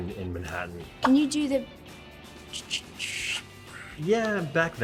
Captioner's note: mimics cappuccino machine